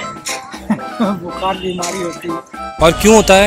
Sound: laughing

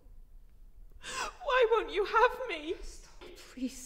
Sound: sobbing

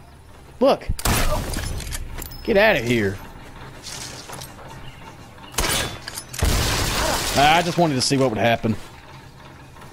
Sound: debris falling

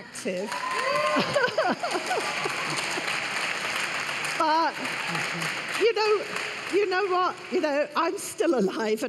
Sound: cheers and applause

